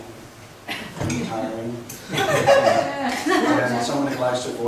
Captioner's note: laughs